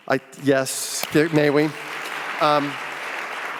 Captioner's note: audience applauding